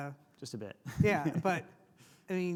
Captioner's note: laughs